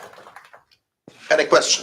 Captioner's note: applause